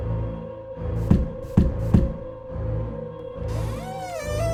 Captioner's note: knock knock knock; door creaking